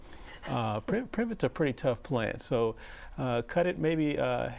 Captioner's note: laughing